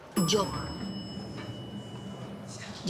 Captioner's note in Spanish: Campanilla del elevador